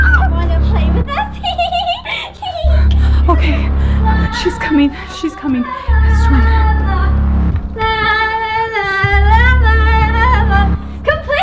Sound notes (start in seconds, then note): 1.0 giggles